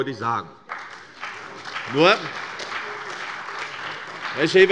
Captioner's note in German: Beifall bei der CDU und dem BÜNDNIS 90/DIE GRÜNEN